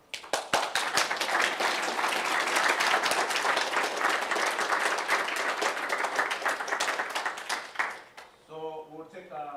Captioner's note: applause